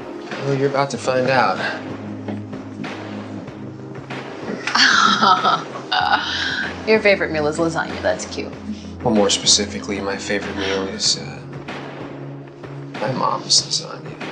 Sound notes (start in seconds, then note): 4.6 chuckles